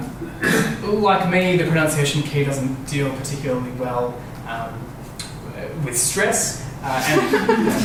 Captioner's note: laughter